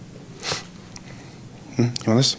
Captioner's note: sniffles